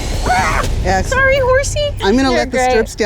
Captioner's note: screams